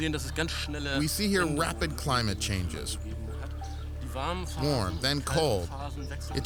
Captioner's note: speaking in German; voice-over